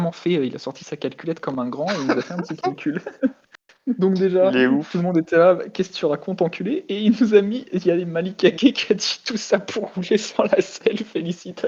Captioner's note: laugh